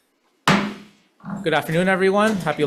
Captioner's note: gavel slams